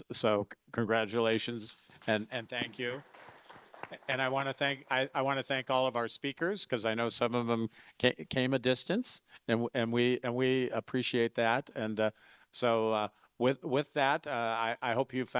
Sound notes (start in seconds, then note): 2.0 audience applauding